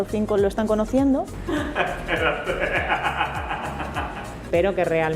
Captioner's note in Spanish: risas